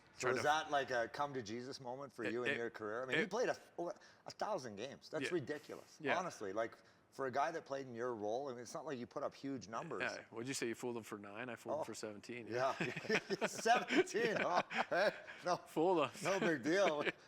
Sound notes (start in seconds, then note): 12.6 laughter